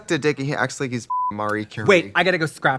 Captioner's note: beep